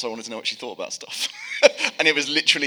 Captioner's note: laughing